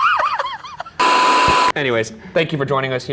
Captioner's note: laughing; beep